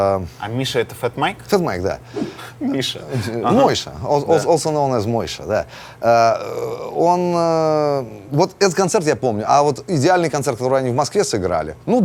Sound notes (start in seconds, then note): 2.2 chuckles